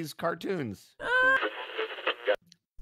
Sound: radio tuning noise

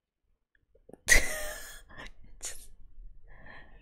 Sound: laughs

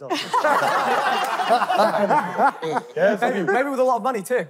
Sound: contestants laughing

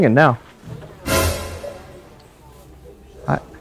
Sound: mysterious crash

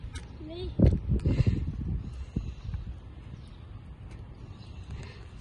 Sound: heavy breathing

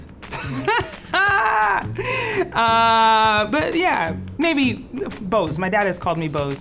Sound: laughs

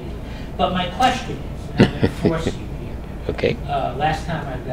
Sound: laugh

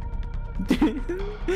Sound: giggling

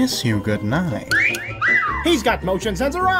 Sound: wolf whistle

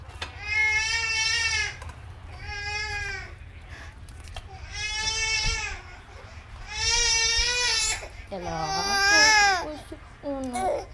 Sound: baby crying

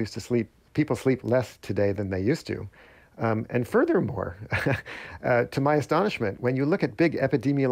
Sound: laughter

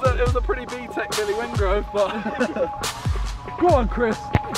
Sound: laughter

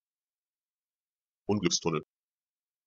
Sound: fast Pronunciation

